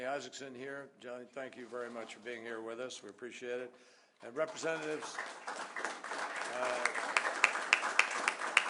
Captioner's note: applause